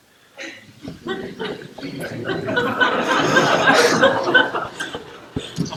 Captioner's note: general laughter